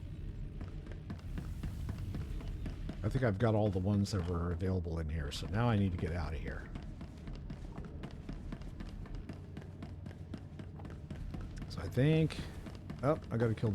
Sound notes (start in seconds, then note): none